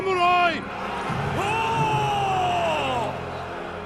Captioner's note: cheers